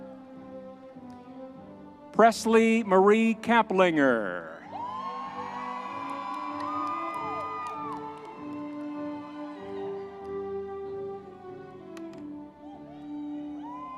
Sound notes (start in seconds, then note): 6.3 audience cheering; 6.3 triumphant music